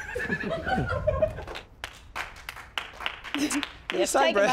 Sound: douchebags clapping

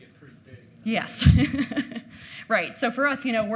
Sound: laughing

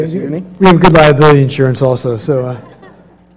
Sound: laugh

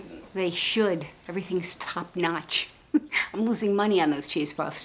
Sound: laughs

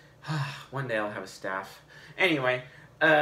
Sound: sighs deeply

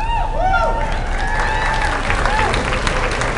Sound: applause

